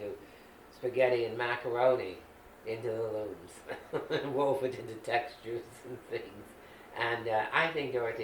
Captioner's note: laughing